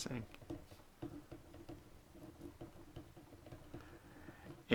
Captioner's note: writing